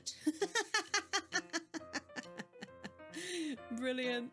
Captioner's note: laughing